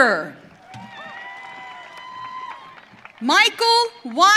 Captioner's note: audience cheering